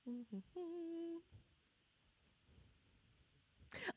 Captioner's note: humming